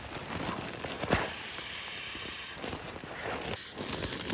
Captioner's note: air hissing